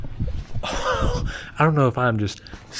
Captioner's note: old person coughing